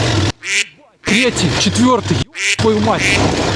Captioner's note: quack